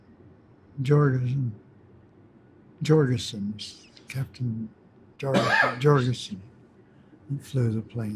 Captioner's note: coughs